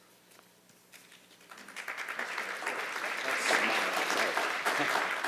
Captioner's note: applause